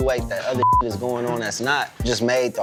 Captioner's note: beep